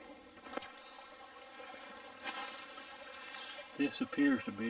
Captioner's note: leaves crunching; burbling water